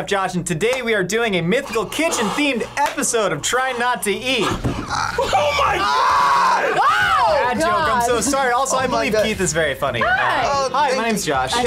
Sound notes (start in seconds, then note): 5.0 screams